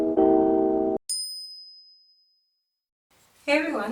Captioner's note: bell chime